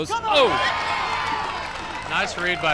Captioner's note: crowd cheers